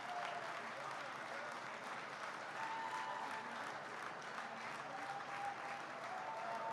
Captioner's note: applause